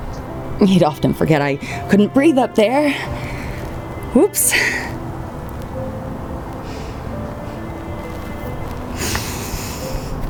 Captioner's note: laughs then cries